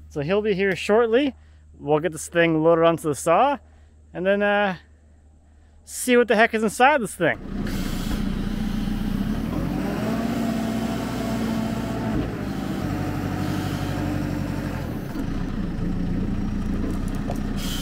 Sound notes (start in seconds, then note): 7.9 engine revving